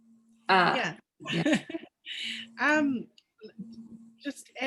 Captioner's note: chuckles